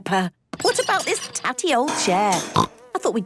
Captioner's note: snorting